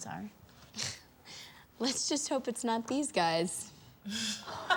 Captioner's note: laughs; girls laugh